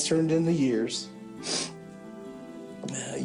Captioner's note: sniffles